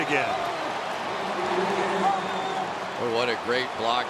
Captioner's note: cheering